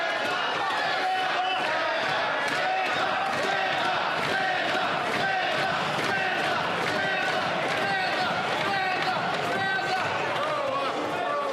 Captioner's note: some Applause